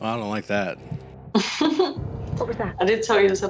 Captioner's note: small laugh